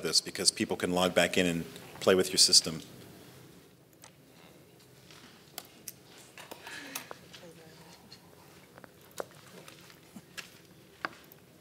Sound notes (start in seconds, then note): 8.6 speaking faintly